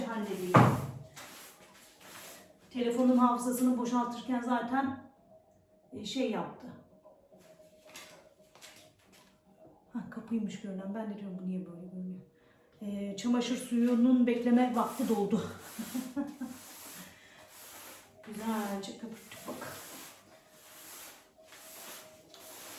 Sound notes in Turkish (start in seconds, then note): 15.8 kahkaha